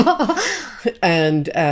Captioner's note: both laughing